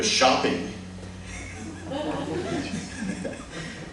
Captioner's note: laughter